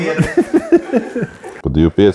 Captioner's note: laughs